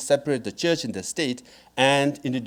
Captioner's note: none